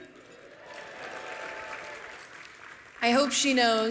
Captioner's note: applause